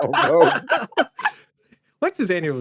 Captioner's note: all laughing